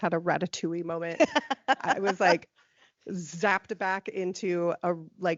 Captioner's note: laughing